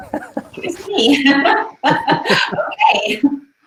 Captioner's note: laughing